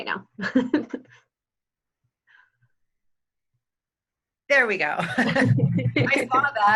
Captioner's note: laughing